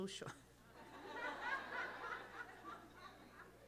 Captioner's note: laughter